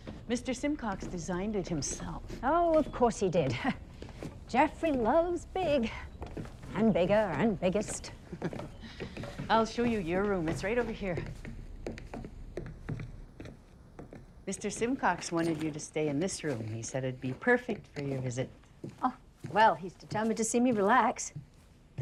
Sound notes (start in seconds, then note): 8.2 Ruth laughs; 11.9 shoes clacking